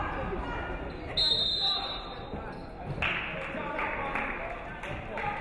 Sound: referee whistles

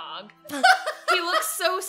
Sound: laughs

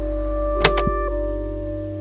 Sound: click

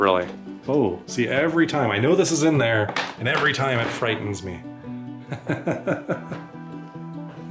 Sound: laughter

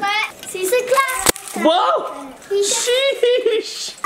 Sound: garland smacks

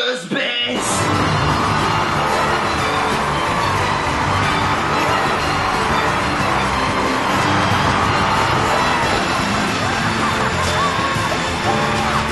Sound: cheering

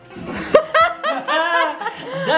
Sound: laughing loudly

